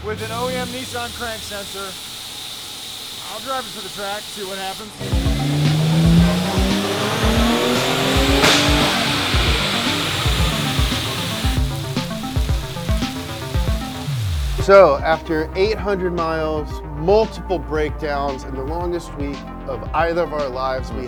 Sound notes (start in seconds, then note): 5.9 car engine roaring; 11.3 upbeat music